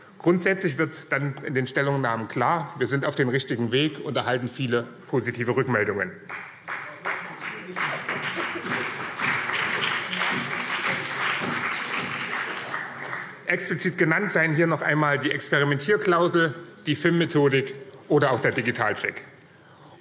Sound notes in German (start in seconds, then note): 6.2 Beifall BÜNDNIS 90/DIE GRÜNEN